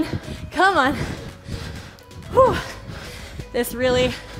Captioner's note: breathes heavily